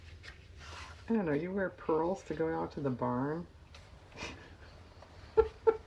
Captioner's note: laughs